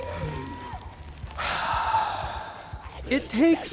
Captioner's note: exhales